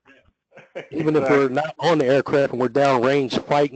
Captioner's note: laugh